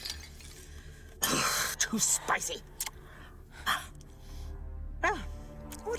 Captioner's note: huffs